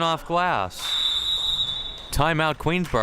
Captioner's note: whistle chirping